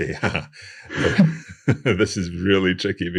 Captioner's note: laughing